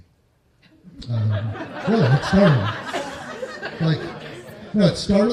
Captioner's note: laughter